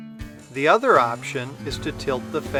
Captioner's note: machine humming